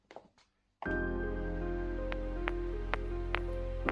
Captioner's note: sound of stone hitting the asphalt